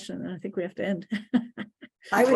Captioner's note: laughs